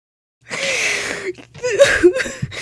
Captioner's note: deep inhale